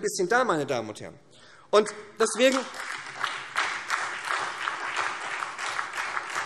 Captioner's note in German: Beifall SPD